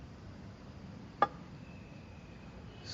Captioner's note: hollow thunking